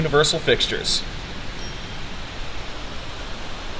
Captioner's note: elevator Chimes